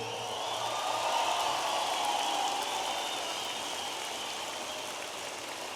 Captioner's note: audience applauding and cheering